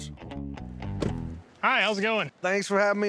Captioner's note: door closing